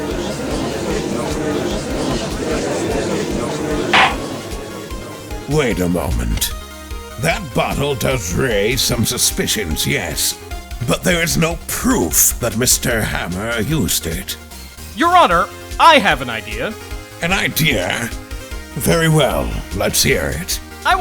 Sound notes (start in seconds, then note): 0.0 gallery chattering; 3.9 gavel slam!